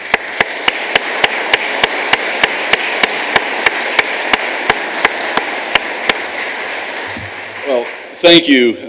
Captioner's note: applause